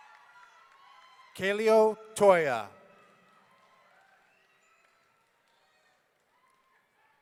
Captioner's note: audience cheering